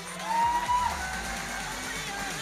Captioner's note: audience cheering